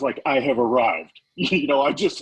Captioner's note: laughing